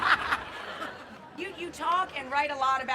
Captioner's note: laughing; crowd laughing